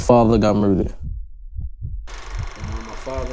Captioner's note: camera reel whirring